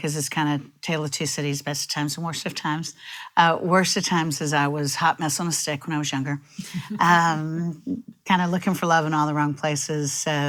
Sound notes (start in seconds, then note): 6.8 chuckles